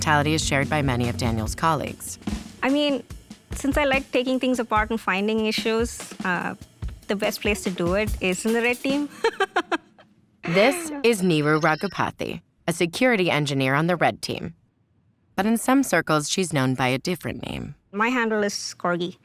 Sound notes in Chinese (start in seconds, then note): 9.0 笑聲